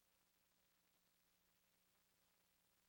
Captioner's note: none